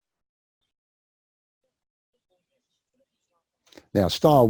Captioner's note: pause